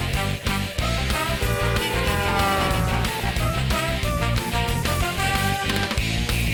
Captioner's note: honking